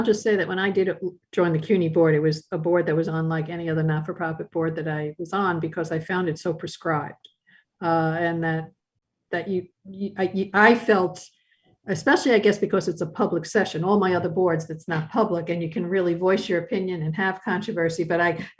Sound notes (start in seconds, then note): 9.1 stuttered speech